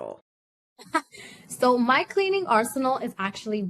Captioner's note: laughs